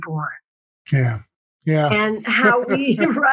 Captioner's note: laugh